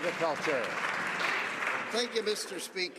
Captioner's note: some Applause